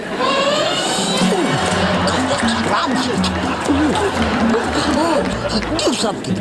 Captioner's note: audience laughing